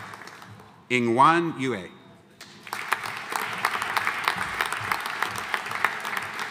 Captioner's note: audience applauding